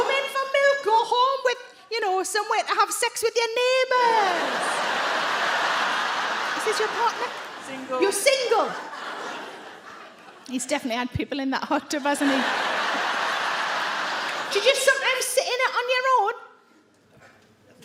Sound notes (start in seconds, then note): 4.1 audience laugh; 12.0 audience laugh